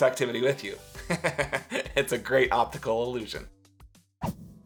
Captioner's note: laughs